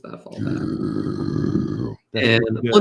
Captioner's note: growls